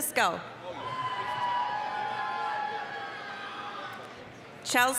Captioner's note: applause, cheering